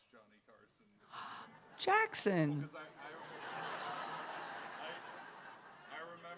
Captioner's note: gasps; laughter